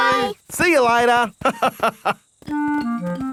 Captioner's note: laughs